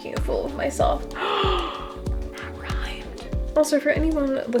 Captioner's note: sing-song; dramatic gasp; whispered